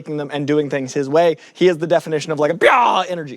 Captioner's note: roars